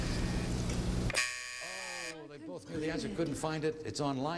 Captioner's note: buzzer